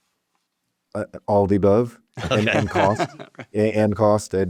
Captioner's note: laughs